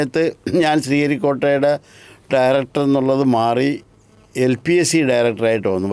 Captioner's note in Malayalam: തൊണ്ട ശരിയാക്കുന്നു